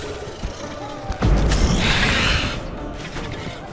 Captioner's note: thunderous boom; shriek